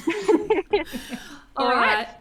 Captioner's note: all laugh